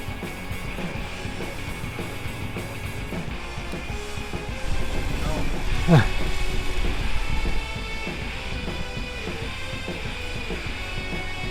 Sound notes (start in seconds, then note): 5.8 gasp